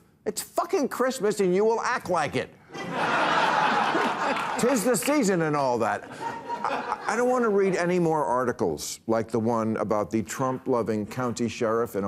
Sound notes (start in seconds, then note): 2.7 audience laughs